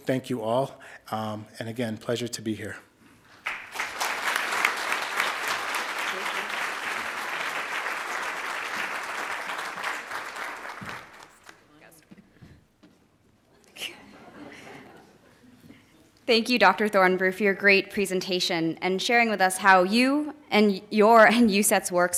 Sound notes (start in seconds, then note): 0.0 speaking Indigenous language; 3.4 crowd applauding; 5.8 audience applauding